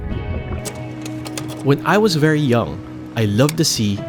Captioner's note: image clicks